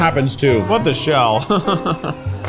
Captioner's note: laughs